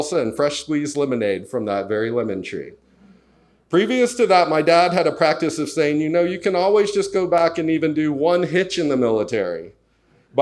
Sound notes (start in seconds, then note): none